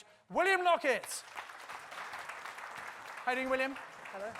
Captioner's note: audience applauds